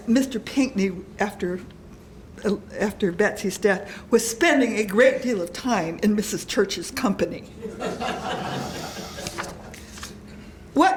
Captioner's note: laughter